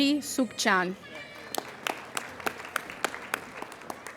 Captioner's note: applauding